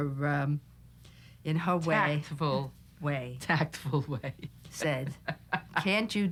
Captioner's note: laughing